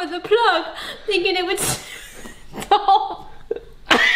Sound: laughing

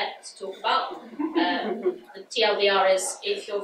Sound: audience laughs

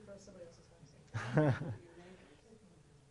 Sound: laughs

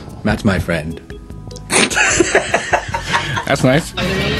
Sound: they both burst out into laughter

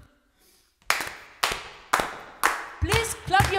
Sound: clapping steady beat

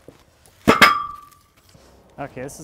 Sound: metal clanging

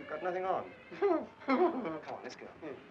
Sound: men chuckling

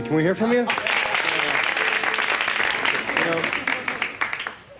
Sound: audience claps

